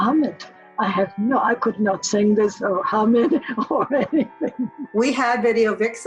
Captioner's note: chuckles